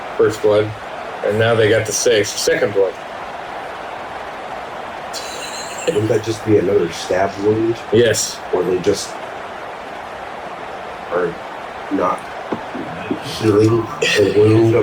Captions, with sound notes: First blood and now they got the six second blood. [Crowd Noises] And that just be another stab wound? Yes. Or they just are not. [Crowd Noises]